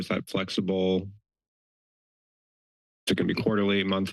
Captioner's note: pause